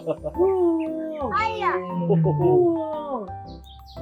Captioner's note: tiger sound